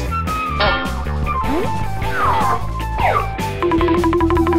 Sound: can clanks; xylophone trilling

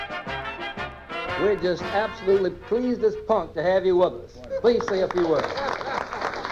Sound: assorted radio clips

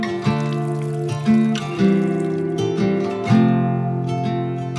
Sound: water splashing

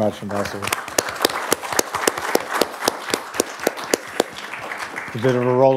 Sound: audience applauding

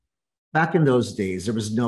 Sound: none

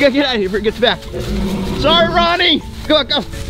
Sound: dinosaur roaring

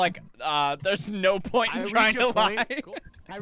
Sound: laughing

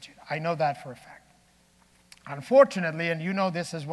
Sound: none

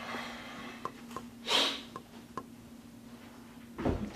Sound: Rob sighs

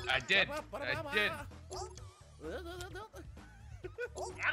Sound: laugh

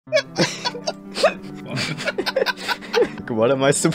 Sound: both Laughing

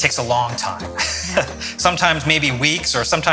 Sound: chuckling

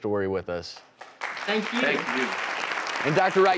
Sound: audience claps

